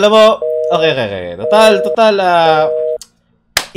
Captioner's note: tsk; clap